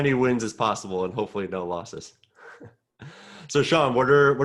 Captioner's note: chuckling